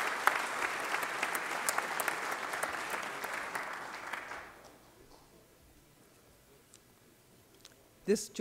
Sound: applause

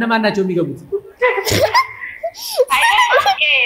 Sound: laughter

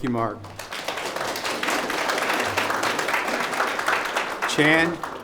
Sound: audience applause

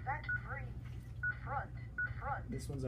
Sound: alarm responding

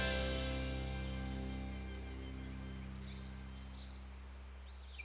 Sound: birds chirping happily

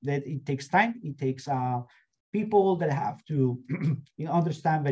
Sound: clears throat

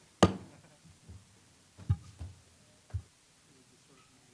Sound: gavel banging

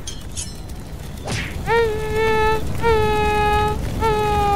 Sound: hit

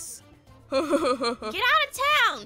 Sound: laughs

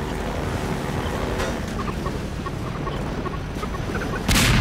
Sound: bomb beeping; bomb exploding

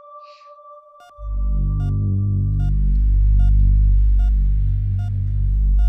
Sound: heart monitor beeps

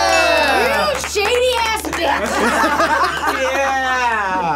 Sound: group laughs

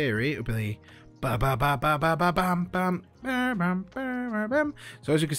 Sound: Bad Tony Bennet Impression

